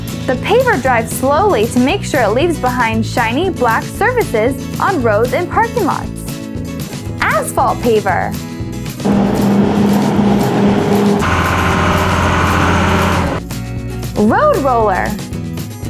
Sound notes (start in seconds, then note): 9.0 asphalt Paver Engine Sound; 11.3 Road Roller Engine Sound